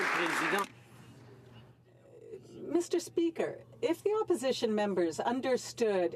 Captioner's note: some Applause